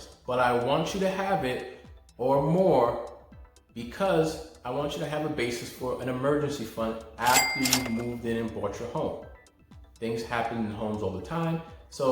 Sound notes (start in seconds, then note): 7.1 register rings